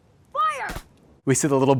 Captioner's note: BB guns popping